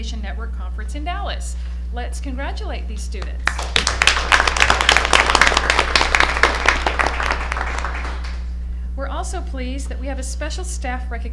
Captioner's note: applause